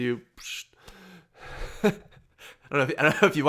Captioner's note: laughs